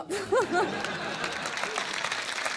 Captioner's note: laughter; applause